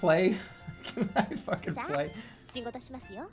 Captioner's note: laughing